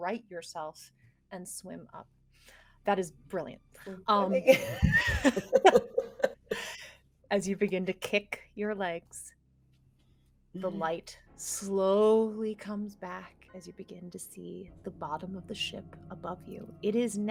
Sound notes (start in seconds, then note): 4.4 everyone laughs